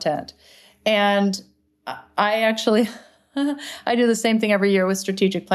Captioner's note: chuckles